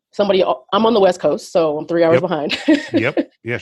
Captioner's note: laughs